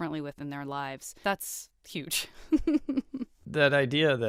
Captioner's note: chuckles